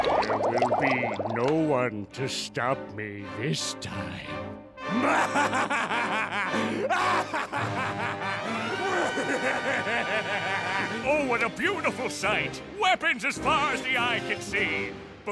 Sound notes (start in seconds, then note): 4.9 laughing maniacally